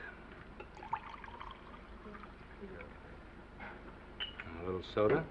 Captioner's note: scotch sloshing